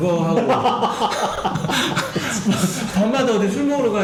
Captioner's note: laughing